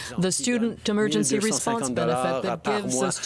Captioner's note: speaking French